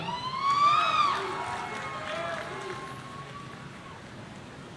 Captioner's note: audience cheering